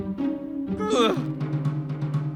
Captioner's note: groans